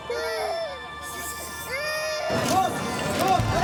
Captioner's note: crying